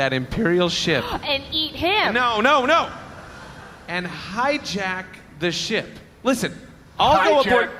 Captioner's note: excited